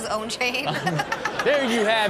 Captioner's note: everyone laughs